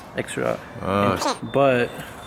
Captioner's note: component squeaks